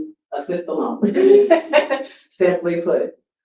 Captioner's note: laughs